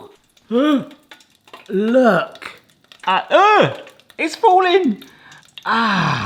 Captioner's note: gasps